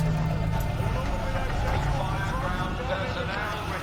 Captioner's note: man over speaker